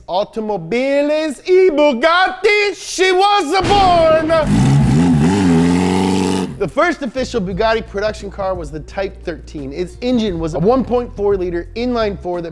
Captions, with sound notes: Automobiles e Bugatti, she was born. (car revving) The first official Bugatti production car was a Type 13. Its engine was a 1.4 liter, inline 4,